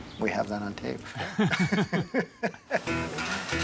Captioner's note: laugh